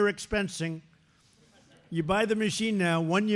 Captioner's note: laughter